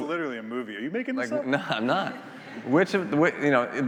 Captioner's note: attendees laughing